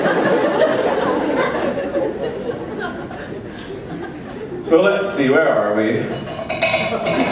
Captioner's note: laughter